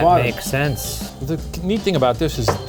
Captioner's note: block thumping